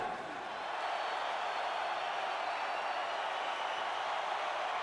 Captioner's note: chuckling; spectators cheering